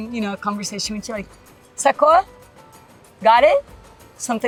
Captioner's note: speaks Portuguese